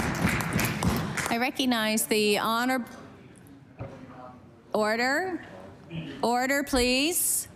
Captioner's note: applause